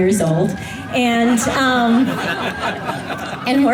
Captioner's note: laughter from audience